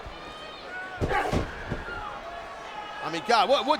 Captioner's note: both grunt